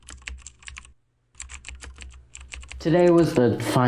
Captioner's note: keyboard clicking